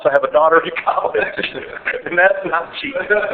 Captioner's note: laughing